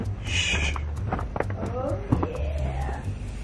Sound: footsteps

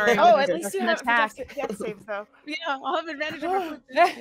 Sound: group chattering

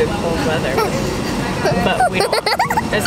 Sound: laughing

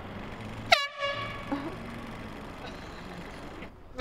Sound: horn sound

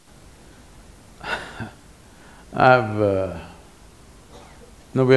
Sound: laughs

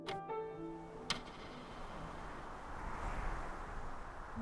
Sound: wind whistles

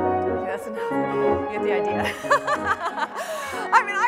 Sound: laughs

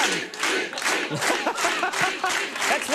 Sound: crowd cheers; laugh

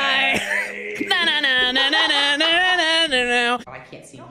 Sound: laughs; imitates guitar solo

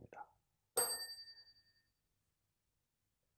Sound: chime

